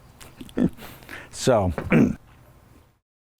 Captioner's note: chuckles; clears throat